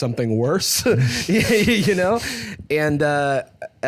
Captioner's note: laughs